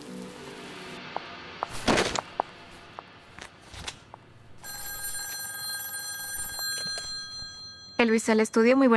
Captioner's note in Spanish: campana